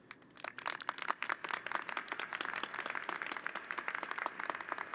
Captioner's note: applause